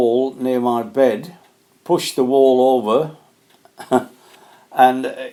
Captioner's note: laughs